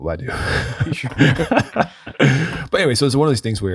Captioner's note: ft. laughing